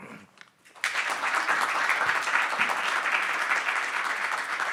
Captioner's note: audience applauding